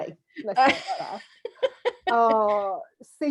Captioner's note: laughs